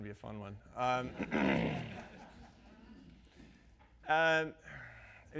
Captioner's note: audience laughs